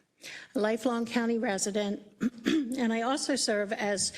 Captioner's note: cough